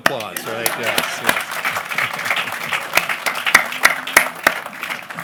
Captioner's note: applause